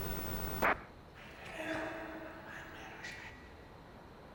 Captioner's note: voice whispers